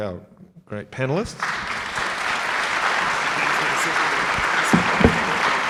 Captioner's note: audience applauding